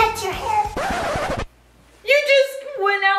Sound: record scratching

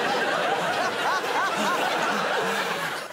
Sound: laughter

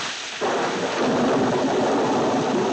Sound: thunder crashing

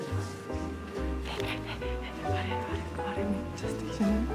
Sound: hyperventilating

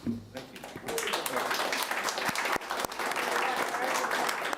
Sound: applauding

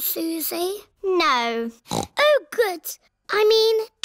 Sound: snorts

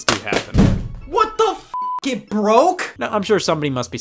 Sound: beep

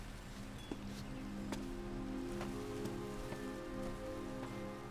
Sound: footsteps

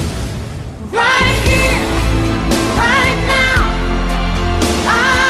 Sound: crowd cheers

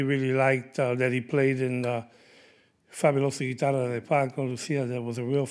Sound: speaking Spanish

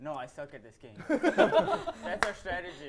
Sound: laughter

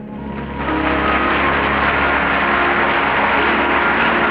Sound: audience applauding

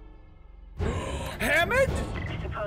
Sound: gasp

